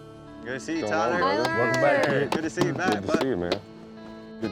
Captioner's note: all greeting, clapping